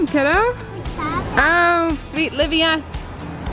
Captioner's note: babbling